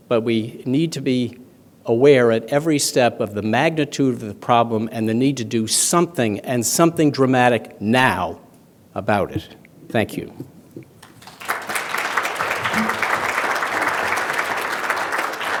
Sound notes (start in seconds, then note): 11.0 applause